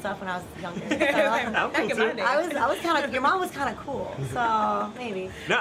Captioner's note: laughs